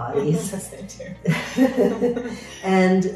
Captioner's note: both laughing